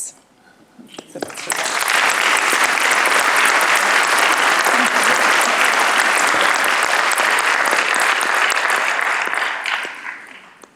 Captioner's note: applause